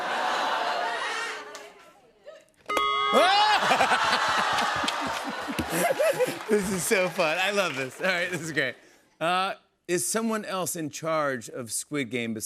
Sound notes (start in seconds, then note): 0.1 laughter; 3.2 laughs